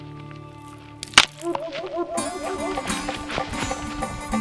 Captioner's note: branch snaps; dramatic music